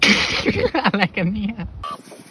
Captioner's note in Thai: หัวเราะ